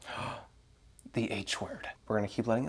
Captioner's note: gasp